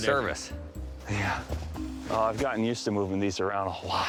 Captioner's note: panting